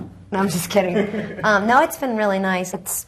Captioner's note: laughs